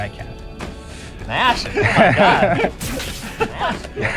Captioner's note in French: rires